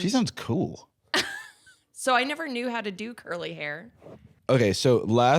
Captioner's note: laughs